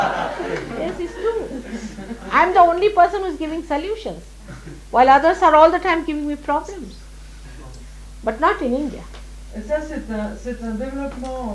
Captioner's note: laughter